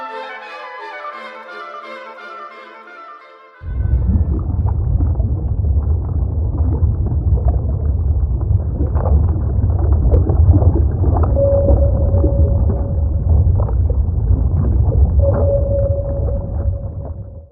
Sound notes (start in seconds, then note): 4.1 bubbles bubbling; 11.3 sonar beeping